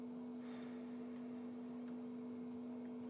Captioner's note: sighs